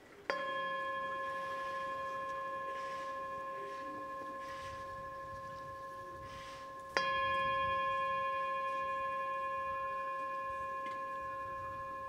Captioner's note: bell Ringing Sound